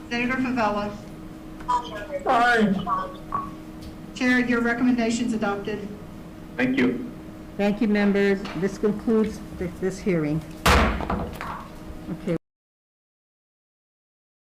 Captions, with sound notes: - Senator Favella. - Aye. - Chair, your recommendations adopted. - Thank you. - Thank you, members, this concludes this hearing. (gavel slams)